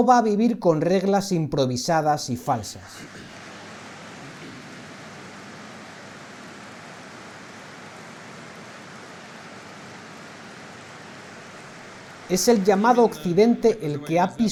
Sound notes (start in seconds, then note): 3.0 applause